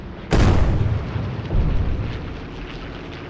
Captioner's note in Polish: odgłosy wystrzałów